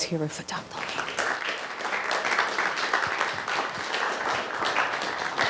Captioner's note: audience applauding